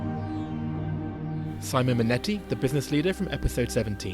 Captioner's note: voiceover